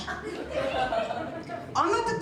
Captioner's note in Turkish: Gülüşmeler